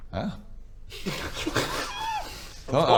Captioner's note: sniggers